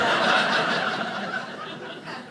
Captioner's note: audience laughing